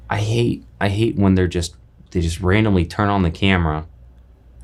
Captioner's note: none